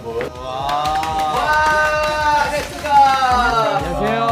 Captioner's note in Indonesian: Tepuk tangan!